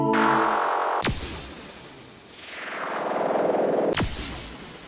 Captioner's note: science fiction noise